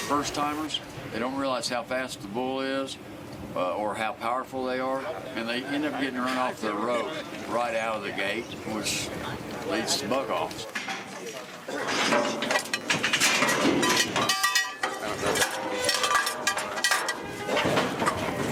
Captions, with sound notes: - First timers, they don't realize how fast the bull is or how powerful they are and they end up getting run off their rope right out of the gate which leads to buck offs. (gates clanging) (cowbells clanging)